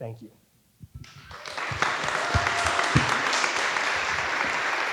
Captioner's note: audience applauding